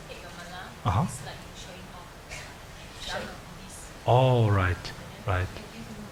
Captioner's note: woman talking in the background